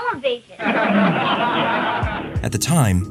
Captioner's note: laughter